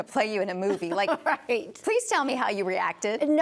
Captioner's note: laughs